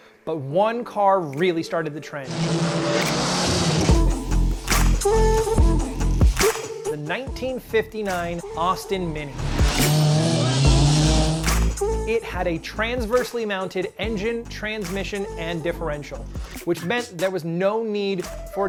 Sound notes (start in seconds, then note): 2.2 engine revving; 2.4 upbeat music